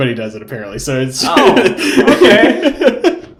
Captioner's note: laughing